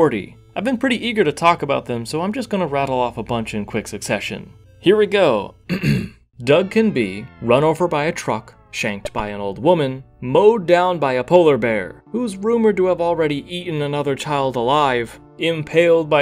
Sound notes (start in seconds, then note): 5.7 ahem